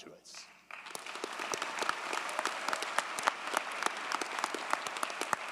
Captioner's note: audience cheers and applauds